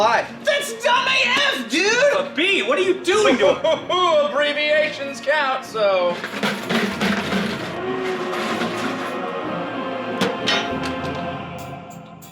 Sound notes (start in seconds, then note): 3.3 chuckling